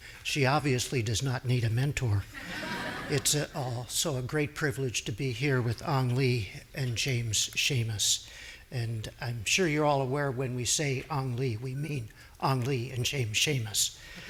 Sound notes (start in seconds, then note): 2.4 audience laughing